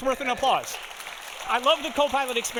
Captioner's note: audience applauding